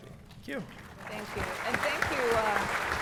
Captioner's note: applause